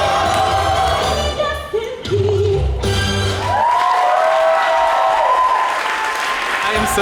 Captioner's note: applause